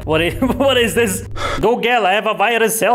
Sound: breaths

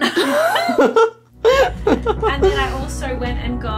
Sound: laughing

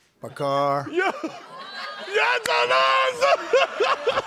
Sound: laughter

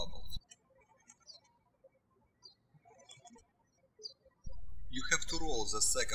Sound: birds chirping

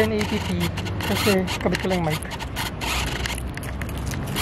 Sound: autofocus motor sound

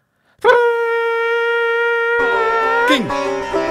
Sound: conch sounding

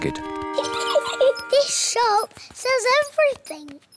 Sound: giggles

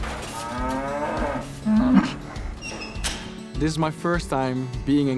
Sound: cows moo

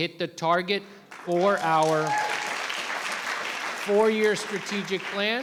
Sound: audience cheering and clapping

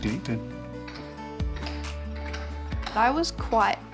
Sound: tap shoes patter

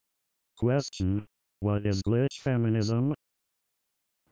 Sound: robot Voice

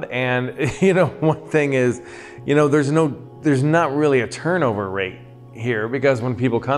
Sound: laughs

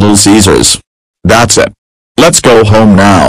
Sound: earrape

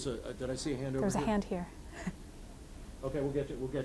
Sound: laughing

